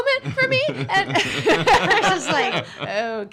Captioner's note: laughing